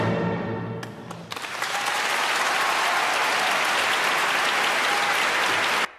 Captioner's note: applause